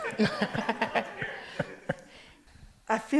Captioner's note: audience laughs